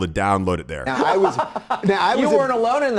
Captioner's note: Tucker laughing